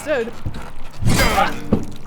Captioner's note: smack!